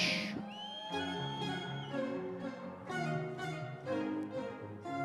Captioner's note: audience cheering